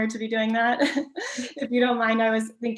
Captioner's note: chuckles